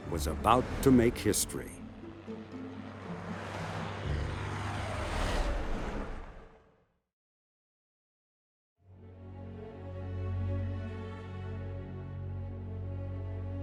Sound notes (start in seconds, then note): 2.9 vehicles whirring; 9.0 deliberative orchestral music